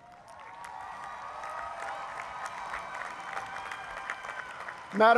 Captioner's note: applause